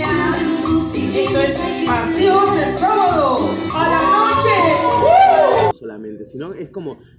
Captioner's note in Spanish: El público grita